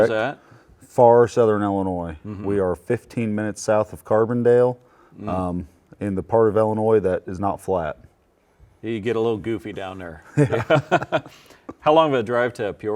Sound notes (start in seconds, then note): 10.3 both laughing